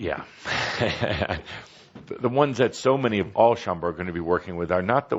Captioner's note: chuckles